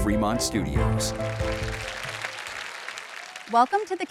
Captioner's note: audience applauding